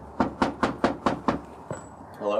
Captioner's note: knocks